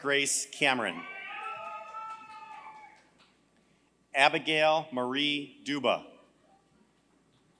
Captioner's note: applause